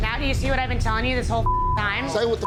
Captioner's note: beep